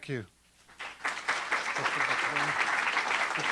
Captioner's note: audience applauding